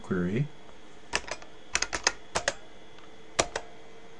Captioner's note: typing